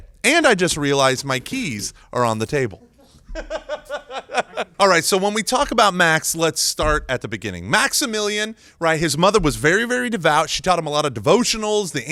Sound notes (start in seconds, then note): 2.6 laughing